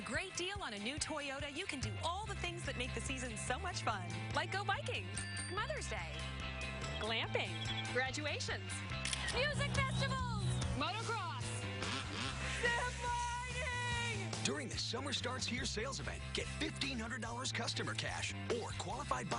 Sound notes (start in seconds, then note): 5.0 bell rings; 9.0 shutter snaps